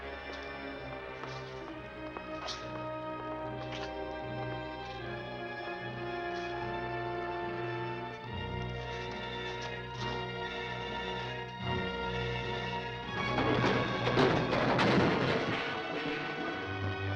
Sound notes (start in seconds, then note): 13.1 bins clattering